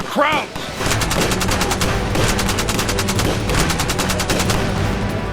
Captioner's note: gunfire rattling